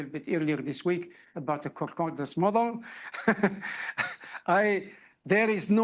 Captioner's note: laughs